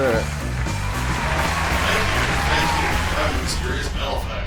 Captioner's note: applause & music